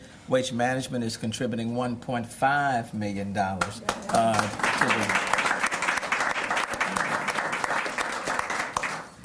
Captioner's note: cheers and applause